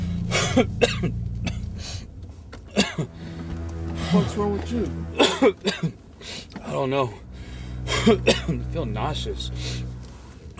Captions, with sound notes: (Dr. Richards coughs) - What's wrong with you? - I don't know. I'm feeling nauseous.